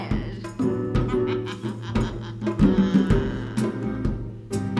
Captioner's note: cackle